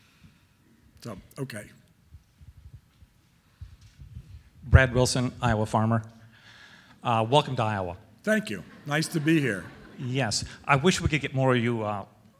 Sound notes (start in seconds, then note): 5.0 voiceover; 8.4 audience laughing; 10.2 voiceover